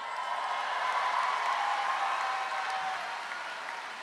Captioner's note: crowd cheers